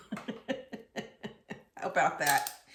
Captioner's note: chuckles